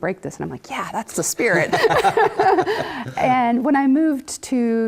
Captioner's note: laugh